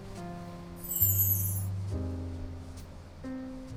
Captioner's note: sparkling sound effect